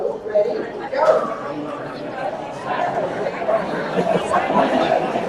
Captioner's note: attendees chatting